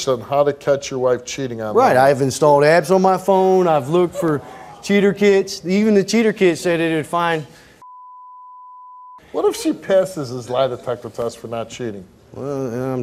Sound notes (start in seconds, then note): 7.8 beep